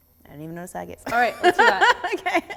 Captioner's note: laughing